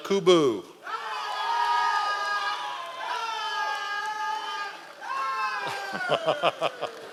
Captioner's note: members of the audience cheering